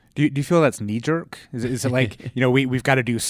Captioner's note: laughs